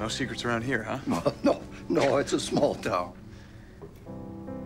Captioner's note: laughs